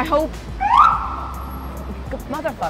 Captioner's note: siren